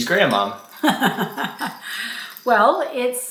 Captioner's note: grandma laughing